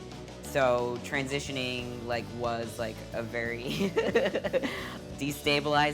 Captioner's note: laughing